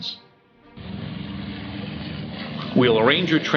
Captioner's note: engine roaring